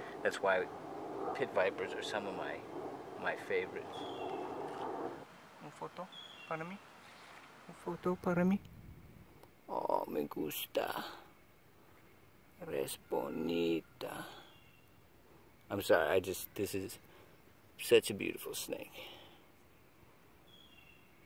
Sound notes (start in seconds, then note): 4.9 speaking Spanish